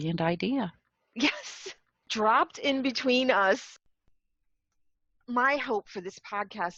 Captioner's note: laugh